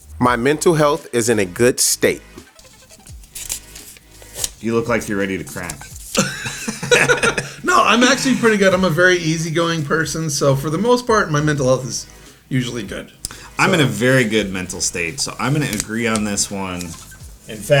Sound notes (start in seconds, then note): 2.5 paper rustling; 5.6 both laughing